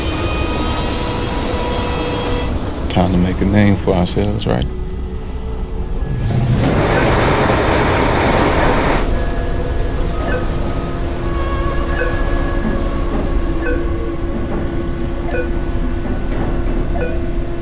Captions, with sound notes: (machine whirring) Time to make a name for ourselves, right? (machine whirring) (beeping)